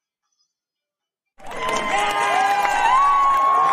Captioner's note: applause and cheering